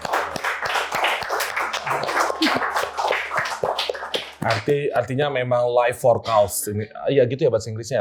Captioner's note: applause